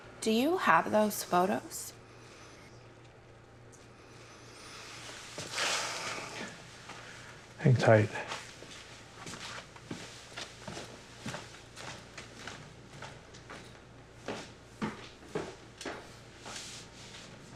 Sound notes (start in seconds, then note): 5.4 Harry sighs